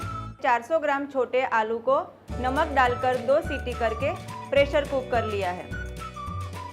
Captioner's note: 2 whistles